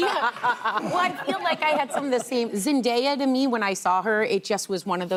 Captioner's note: laughter